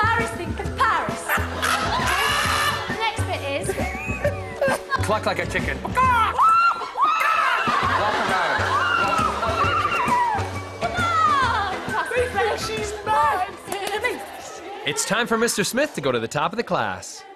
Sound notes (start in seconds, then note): 0.9 laughter; 8.6 clucking